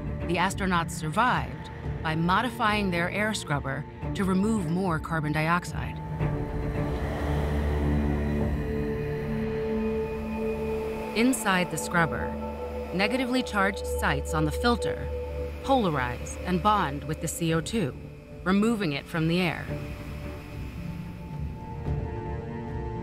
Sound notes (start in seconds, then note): 6.0 air flowing